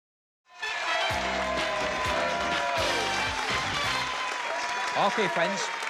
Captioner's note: applause and cheering